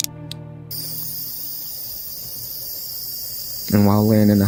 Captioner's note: machines beeping